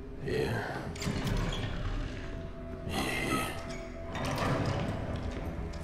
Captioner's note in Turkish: Kapı açılma ve kapanma sesi